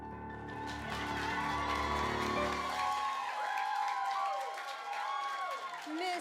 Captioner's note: piano outro; applause